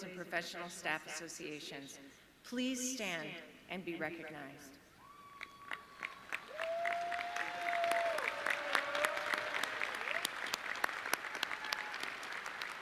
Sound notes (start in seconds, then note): 5.1 audience cheering